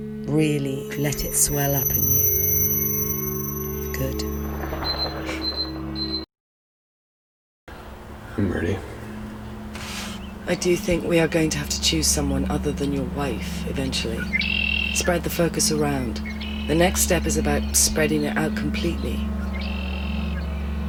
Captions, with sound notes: Really let it swell up in you. Good. [beeping] I'm ready. I do think we are going to have to choose someone other than your wife eventually [songbird] spread the focus around. The next step is about spreading it out completely. [songbird]